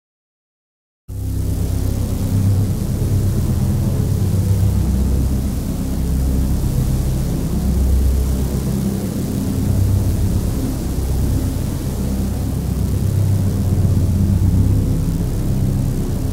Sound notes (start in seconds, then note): 1.1 sound of drone